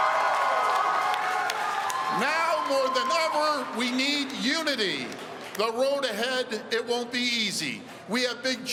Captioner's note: cheering